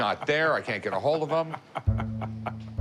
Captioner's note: laughs